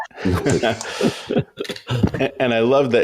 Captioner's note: everyone laughing